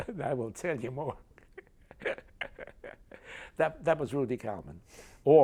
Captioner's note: laughs